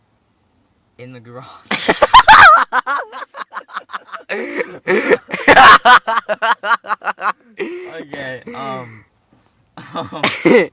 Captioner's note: hideous laughter breaks free from our disgustingly pitiful lungs